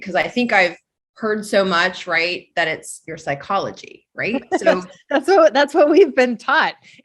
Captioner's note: laughs